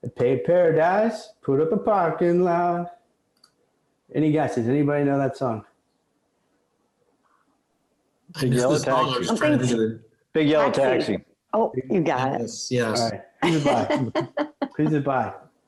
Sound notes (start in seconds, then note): 8.4 overlapping chatter; 13.4 laughter